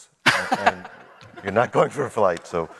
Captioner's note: laughing